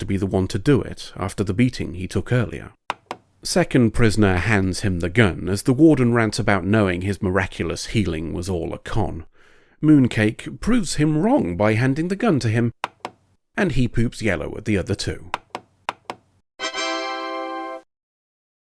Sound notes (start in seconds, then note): 2.9 click; 15.3 click; 15.3 click click; 16.6 windows tada sound